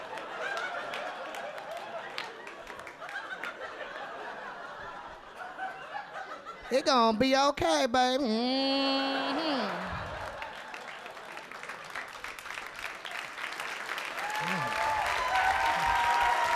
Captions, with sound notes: It gonna be okay baby, mm. (audience laughing) (audience cheering)